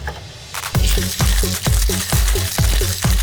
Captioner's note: shaking